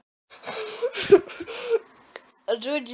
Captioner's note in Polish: Płacz